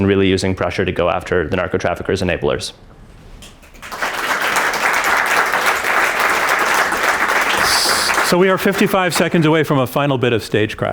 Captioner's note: applause